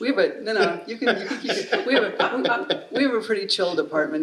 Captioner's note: laughing